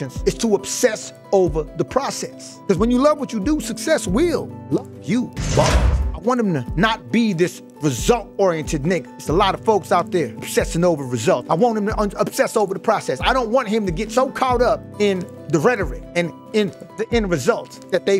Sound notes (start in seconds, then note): 5.4 bars slamming